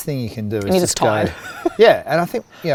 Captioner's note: giggles